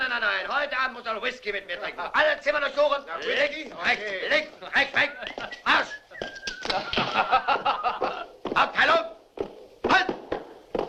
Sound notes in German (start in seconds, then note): 5.3 Dusty pfeift